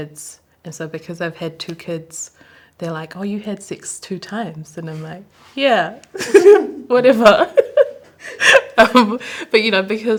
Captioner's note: laughs